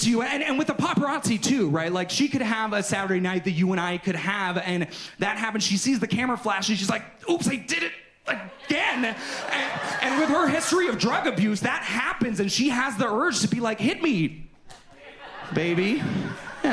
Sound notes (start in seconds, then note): 8.2 audience laughs